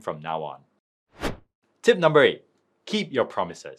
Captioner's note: screen wipe whooshes